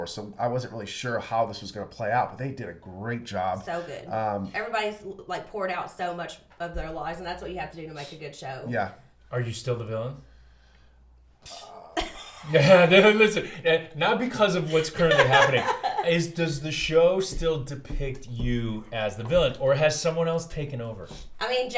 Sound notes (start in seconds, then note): 11.5 groans; 12.9 laughs